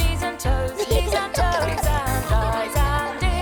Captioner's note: giggling